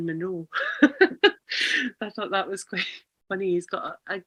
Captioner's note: laughs